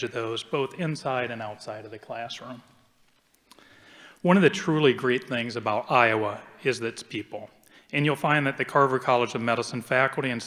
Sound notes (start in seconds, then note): none